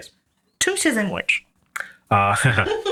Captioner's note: laughs